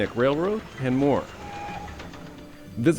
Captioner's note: train whistles